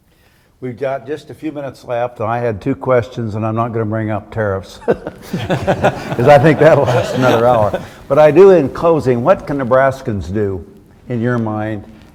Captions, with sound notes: We've got just a few minutes left, I had two questions and I'm not gonna bring up tariffs. (all laughing) Because I think that'll, that's another hour. But I do in closing, what can Nebraskans do in your mind